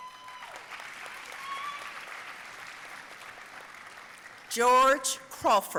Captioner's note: audience cheering and applauding